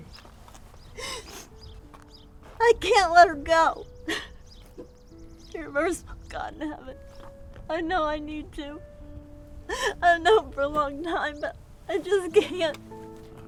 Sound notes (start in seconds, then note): 0.3 gentle music; 5.6 crying